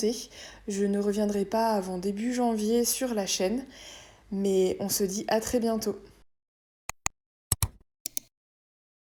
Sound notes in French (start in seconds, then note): 8.0 3 différents clics